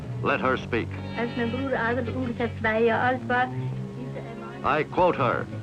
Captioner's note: speaking in German